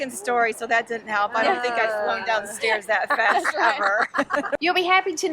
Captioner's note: laughs